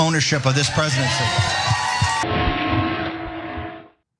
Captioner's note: applause